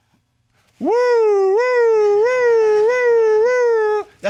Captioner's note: imitates sirens